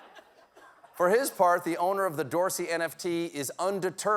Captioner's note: laughter